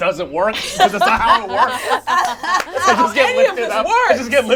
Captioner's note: laughs